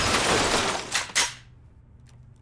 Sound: glass shattering; gun clicking

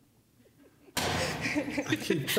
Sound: laughter

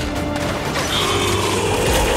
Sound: gunfire

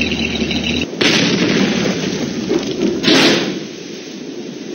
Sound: explosion

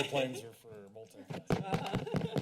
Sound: mic tapping; laughter

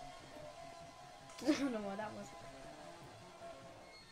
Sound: laugh

